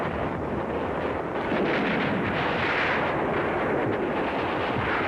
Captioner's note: grenades exploding